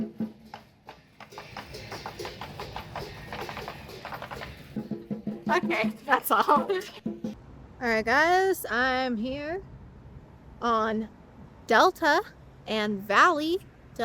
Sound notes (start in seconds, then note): 6.2 laughs